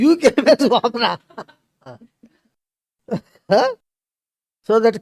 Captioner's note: laughs